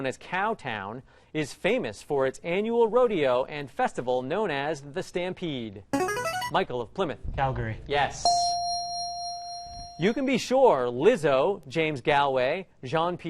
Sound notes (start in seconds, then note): 6.0 ringer; 8.2 ding